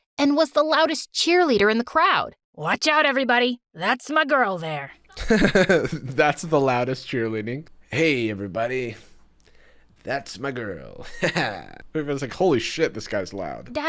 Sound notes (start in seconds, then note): 5.1 chuckles